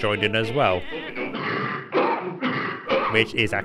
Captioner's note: both coughing